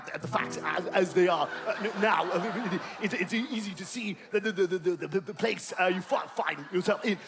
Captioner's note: Boris Johnson Impression